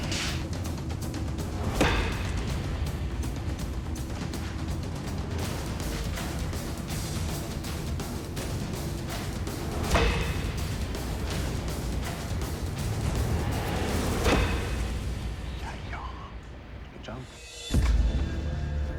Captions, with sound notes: (WHISPERING) Yeah. Good job.